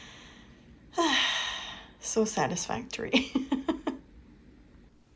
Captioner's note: sigh; laughing